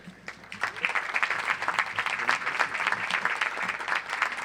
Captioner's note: audience applauds